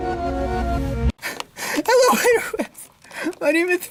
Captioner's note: sobbing